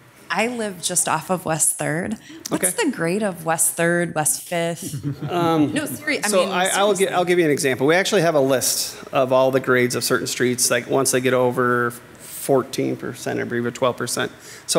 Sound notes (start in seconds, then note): 4.8 people softly chuckling